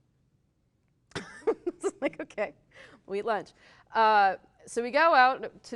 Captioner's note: laughs